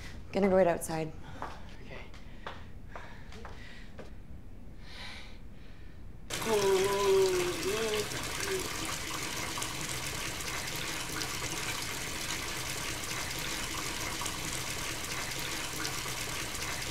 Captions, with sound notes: I'm gonna be right outside. - Okay. (moans) (water splashing)